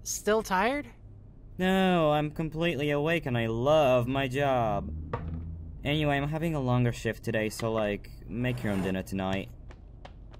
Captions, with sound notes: Still tired? [Sarcastically] Nooo, I’m COMPLETELY awake and I looove my job. Anyway, I’m having a longer shift today so like...make your own dinner tonight.